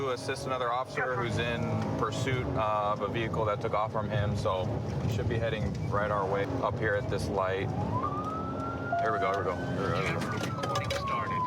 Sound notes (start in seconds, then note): 7.6 sirens